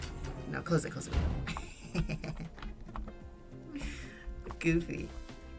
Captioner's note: laughs